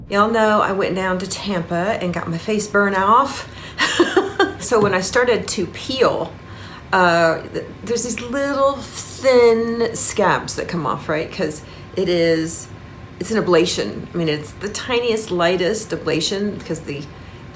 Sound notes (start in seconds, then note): 3.7 laughing